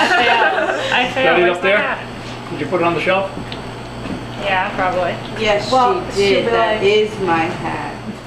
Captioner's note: kitchen chatter